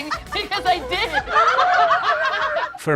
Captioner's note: laughter